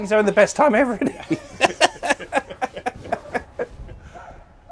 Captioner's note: laughter